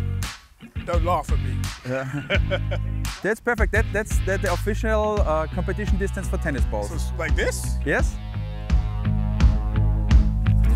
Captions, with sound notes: Don't laugh at me. [Laughter] That's perfect that's the official competition distance for tennis balls. It's like this? Yes.